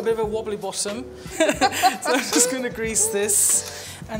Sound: both laugh

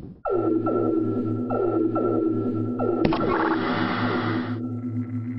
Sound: motion detection alert

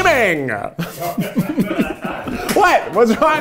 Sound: laughing

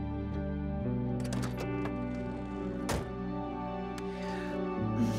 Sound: car door creaking

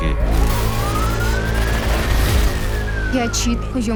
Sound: siren wailing

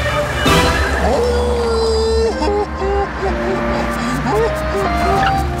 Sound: howling, crying

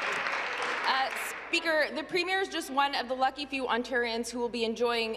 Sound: applause

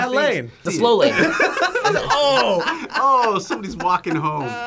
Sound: group laughs

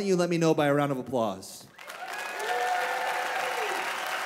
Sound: applause

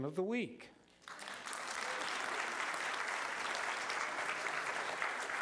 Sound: applause

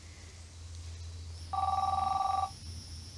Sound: phone rings

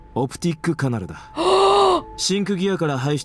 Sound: gasps

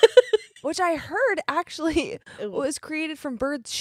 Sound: both laughing

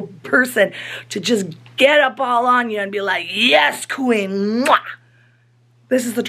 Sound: kiss

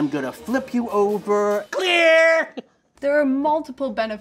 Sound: laughs

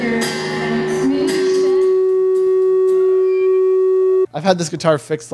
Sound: loud audio feedback

